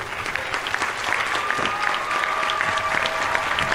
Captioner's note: cheers and applause